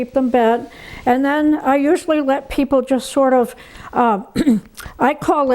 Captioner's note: clears throat